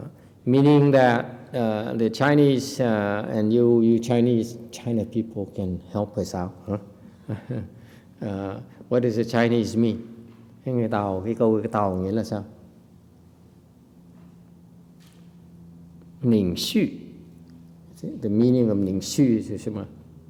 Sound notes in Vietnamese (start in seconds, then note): 7.1 chuckle